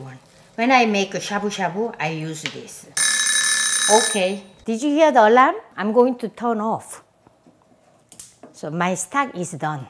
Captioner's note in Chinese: 鬧鐘響了